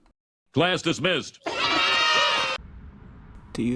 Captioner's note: cheers